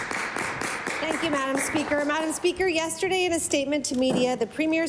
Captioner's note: applause